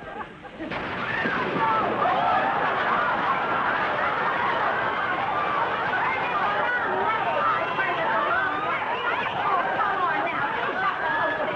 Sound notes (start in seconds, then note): 0.9 Viv screaming; 0.9 water spraying; 1.7 audience laughing